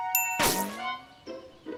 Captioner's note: whizzing